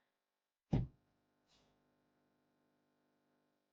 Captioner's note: door slams